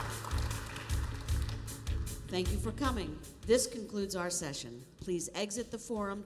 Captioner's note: applause